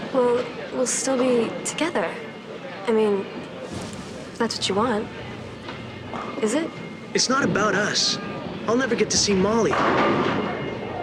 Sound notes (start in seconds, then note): none